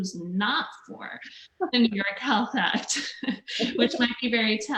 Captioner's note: laughs; laughs